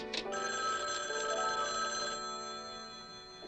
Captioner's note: phone Ringing